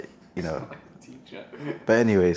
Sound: speaking faintly off mic

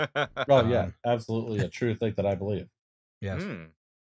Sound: laughter

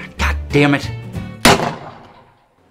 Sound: gunshot

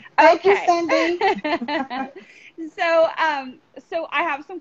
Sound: laughing

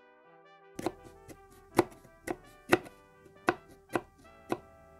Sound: ASMR chopping sounds

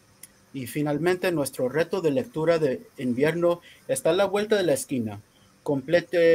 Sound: speaking in foreign language

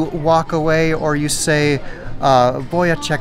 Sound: speaks Spanish

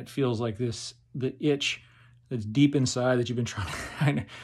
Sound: chuckles

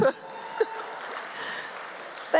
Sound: cheering, applause

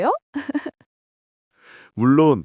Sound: laughs

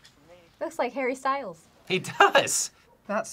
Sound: laughs

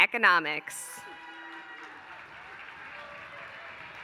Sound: applause

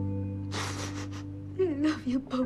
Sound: sniffles

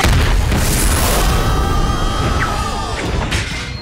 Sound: screaming

